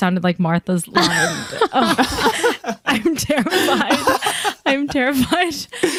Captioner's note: all laughing